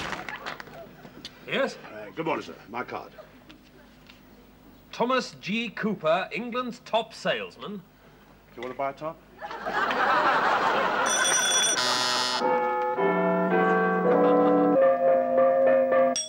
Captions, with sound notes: - Yes? - Uh, good morning, sir. My card. - Thomas G. Cooper. England's top salesman. - You wanna buy a top? (audience laughs) (multiple bells going off at once)